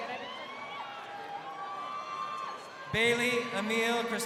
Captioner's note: crowd cheering